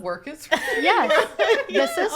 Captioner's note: people laughing